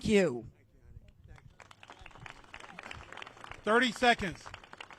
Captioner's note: applause